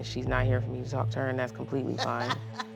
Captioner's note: laughs